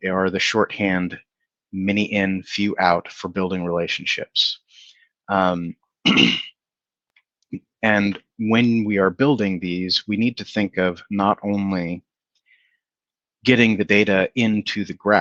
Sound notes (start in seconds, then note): 6.0 clears throat